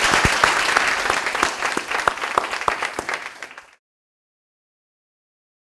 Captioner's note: applause